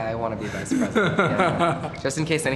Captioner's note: laugh